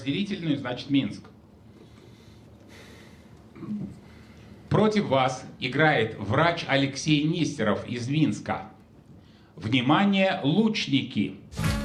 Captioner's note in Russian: откашливается